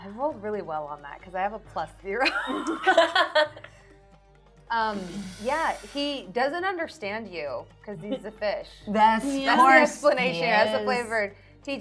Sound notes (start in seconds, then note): 2.4 laughing